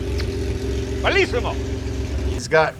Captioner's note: speaks foreign language